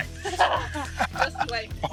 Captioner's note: all laughing